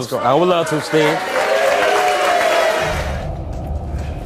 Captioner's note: audience applauds; dramatic orchestral music